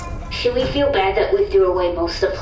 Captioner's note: Horsehat goes back in their room, door shuts